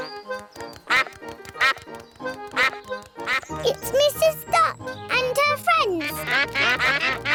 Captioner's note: quacks; all quack; laughter